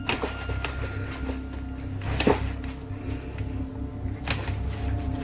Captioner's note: bin shaking and rustling